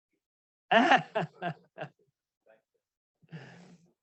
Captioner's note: laughs